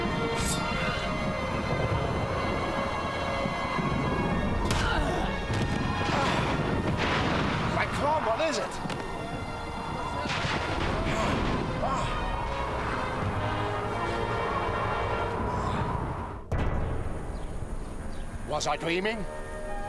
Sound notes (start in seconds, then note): 4.6 groaning; 4.6 smack; 16.8 somber orchestral music